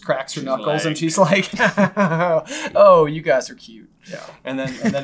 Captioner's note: chuckles